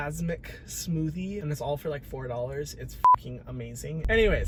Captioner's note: beep